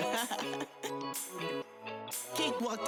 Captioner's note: person laughing; upbeat music